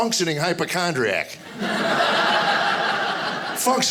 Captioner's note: audience laughing